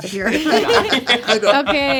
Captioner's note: all laughing